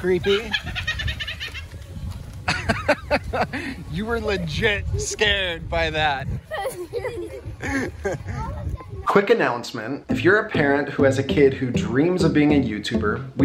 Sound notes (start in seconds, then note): 2.4 maniacal laughing; 2.4 laughing; 7.6 laughing